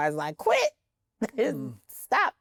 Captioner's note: laughs